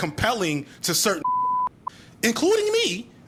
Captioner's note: beep